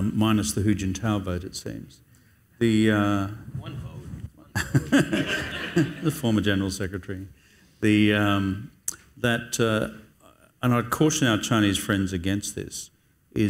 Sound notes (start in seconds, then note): 4.6 audience laughs